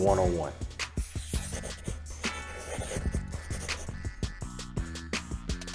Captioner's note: pencil scribbling, hip hop music